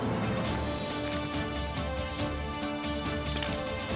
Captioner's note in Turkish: Ok kırma sesleri